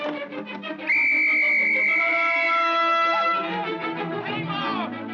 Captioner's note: whistle blowing